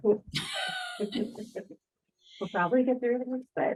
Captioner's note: chuckles